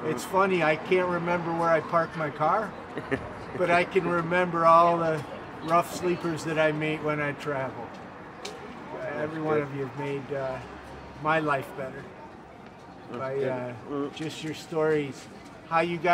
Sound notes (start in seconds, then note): 2.9 chuckles